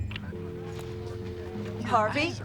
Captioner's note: dial tone drones